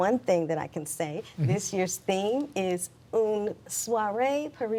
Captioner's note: speaking in French